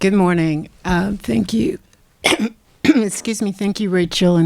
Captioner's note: clearing throat